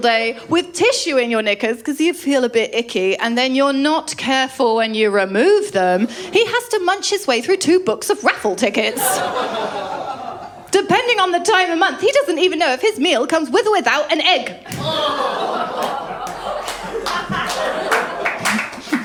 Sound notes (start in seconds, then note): 8.8 laughter; 14.8 groans & laughter; 17.2 audience applause